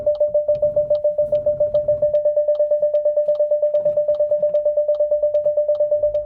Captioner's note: front sensors going off